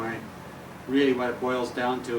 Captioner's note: none